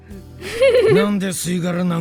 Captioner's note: chuckles